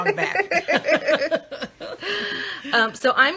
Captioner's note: laughing